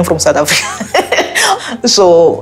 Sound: laughing

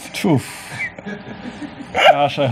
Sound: laughs

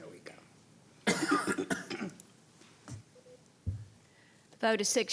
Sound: coughing

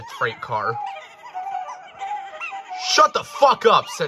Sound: truck giggles

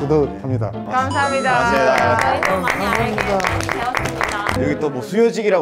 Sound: A round of applause

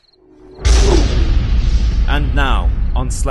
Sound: boom

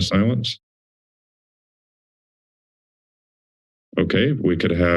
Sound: silence

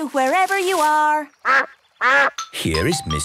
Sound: quacks

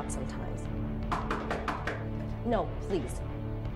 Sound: knocking on door

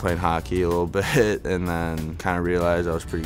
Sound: laughs

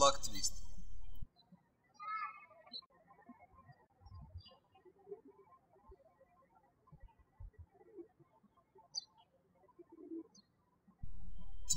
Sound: birds chirping

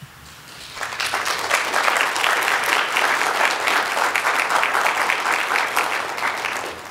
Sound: applause

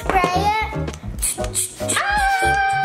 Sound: water spraying; mom screaming

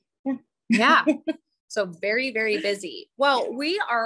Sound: chuckles

